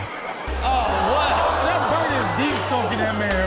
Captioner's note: audience laughs; audience groans